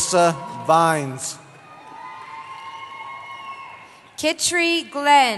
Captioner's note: cheering